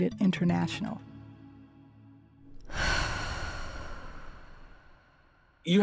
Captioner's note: soundbite of exhale